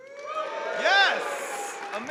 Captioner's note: audience cheering